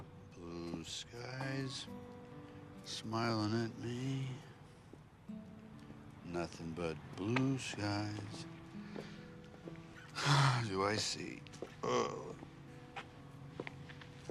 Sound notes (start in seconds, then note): 10.0 sighs; 11.8 groans